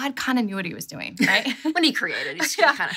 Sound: laughs

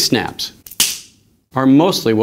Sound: snap

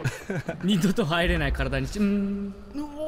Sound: laughs

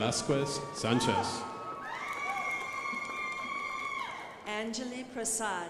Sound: crowd applauding

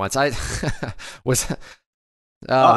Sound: laughs

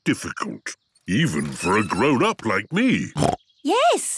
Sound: snorts

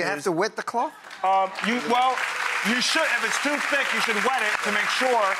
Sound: audience applauds

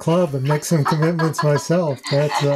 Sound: laughs

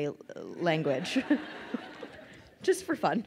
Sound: crowd laughing

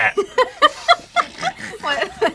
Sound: laughter

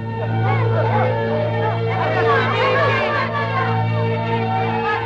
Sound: all shouting

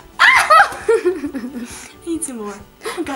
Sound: shrieks; laughs

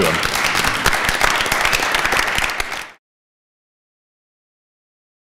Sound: applause

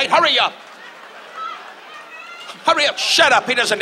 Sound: audience laughs

